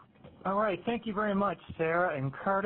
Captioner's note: voiceover